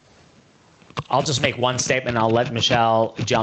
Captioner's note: none